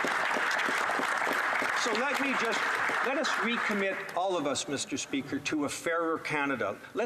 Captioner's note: some Applause